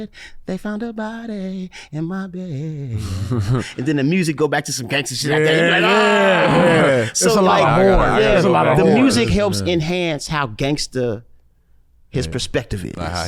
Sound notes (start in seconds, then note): 3.1 laughs